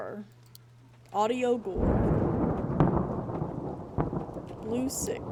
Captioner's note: thunder Rumbling